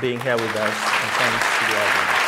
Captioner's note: applause